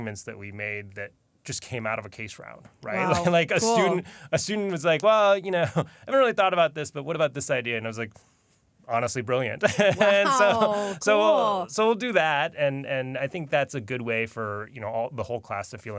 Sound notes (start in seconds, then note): 9.7 laughs